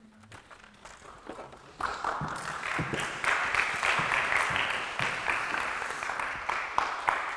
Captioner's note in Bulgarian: аплодисменти